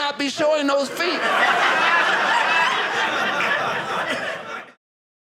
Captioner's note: audience laughing